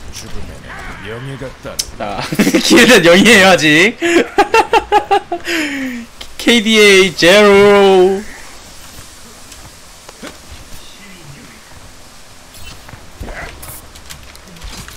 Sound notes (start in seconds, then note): 4.0 laughs